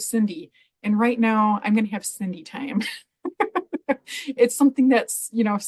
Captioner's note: laughs